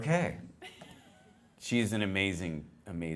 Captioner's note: laughter